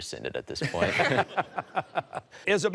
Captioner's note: laughter